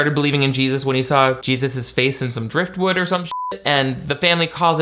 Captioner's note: beep